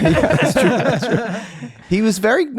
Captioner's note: all laughing